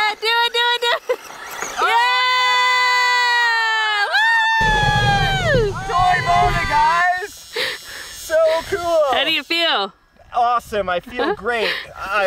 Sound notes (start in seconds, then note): 3.5 all cheering